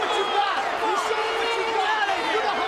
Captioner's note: crowd booing